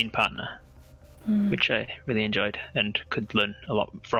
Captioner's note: agreeing mmm